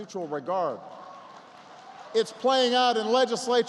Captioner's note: applause